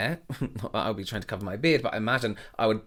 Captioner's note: chuckling